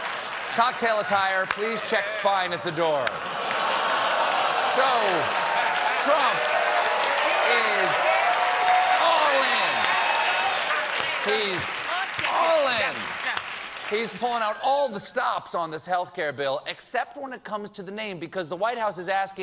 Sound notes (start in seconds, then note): 5.2 applause